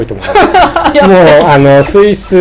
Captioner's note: laughing